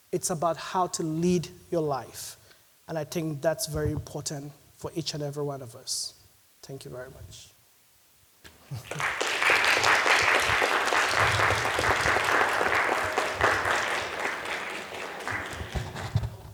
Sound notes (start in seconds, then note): 8.6 audience applauding